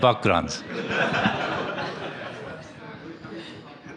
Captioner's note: laughter